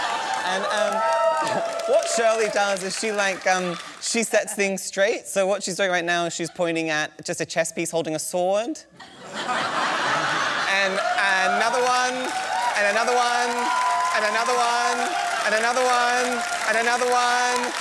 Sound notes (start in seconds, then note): 9.0 laughter; 13.4 cheering